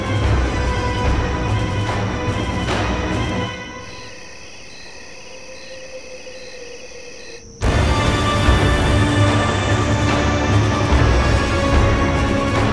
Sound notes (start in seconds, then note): 3.9 crickets chirping; 7.7 tense music